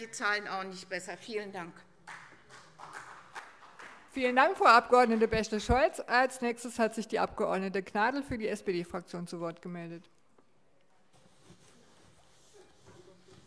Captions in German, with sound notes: die Zahlen auch nicht besser. - Vielen Dank. [Beifall CDU] Vielen Dank, Frau Abg. Bächle-Scholz - Als Nächste hat sich Frau Abg. Gnadl für die SPD-Fraktion zu Wort gemeldet.